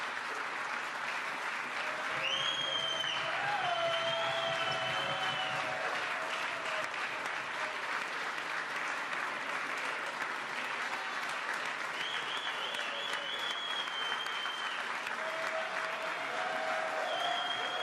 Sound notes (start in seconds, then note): 0.0 applause; 11.8 applause